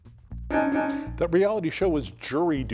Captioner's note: bell dings